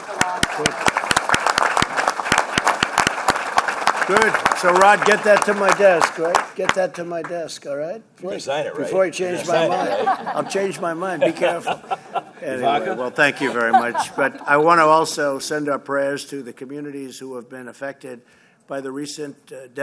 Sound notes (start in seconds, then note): 1.9 applause; 9.4 laughter